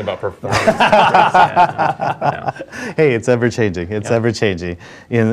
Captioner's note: laugh